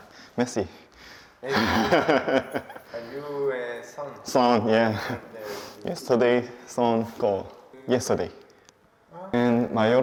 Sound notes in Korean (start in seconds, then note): 1.5 환하게 웃음